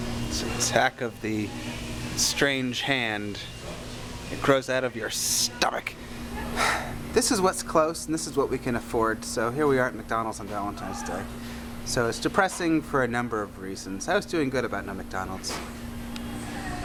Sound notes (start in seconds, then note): 6.5 sighs